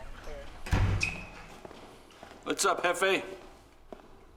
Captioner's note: door closes